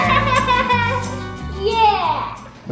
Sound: laughing

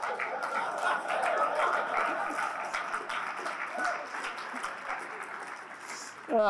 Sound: applause; laughter

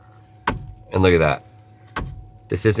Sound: steering wheel banging

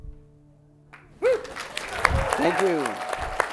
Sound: cheering

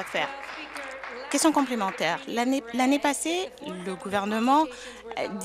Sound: applause

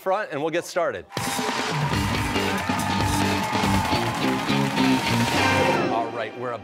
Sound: cheers and applause

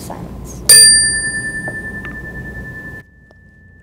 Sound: bell chimes

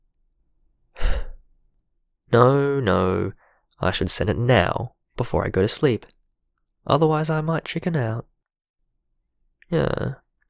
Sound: sigh

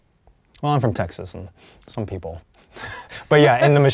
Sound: laughs

